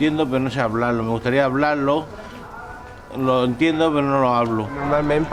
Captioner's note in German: auf Spanisch